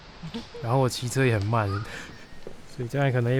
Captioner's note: laughs